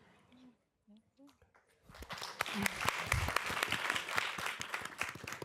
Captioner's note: applause